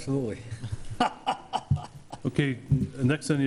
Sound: laughs

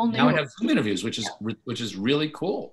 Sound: none

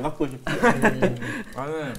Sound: laughing

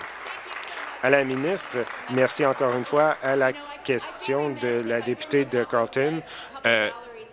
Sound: applause

